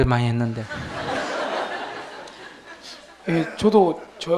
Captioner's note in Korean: 청중 웃음